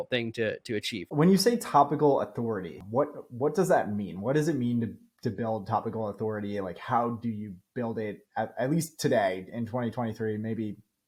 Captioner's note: speaking